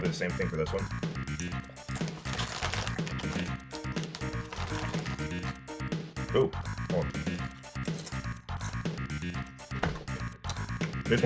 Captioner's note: general eating these largely unpowdered chips